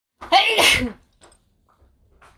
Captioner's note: achoo